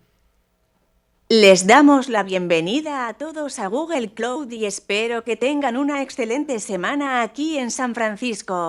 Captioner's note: speaking spanish